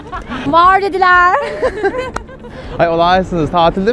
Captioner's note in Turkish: gülüşme